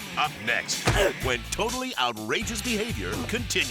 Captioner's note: leg thudding